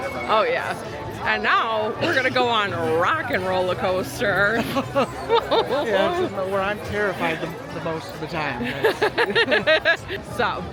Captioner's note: laughs